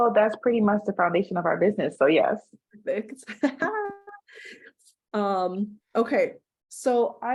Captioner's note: chuckles